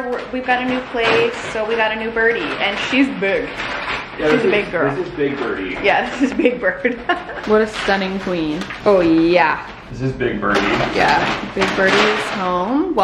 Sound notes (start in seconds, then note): 6.0 laughing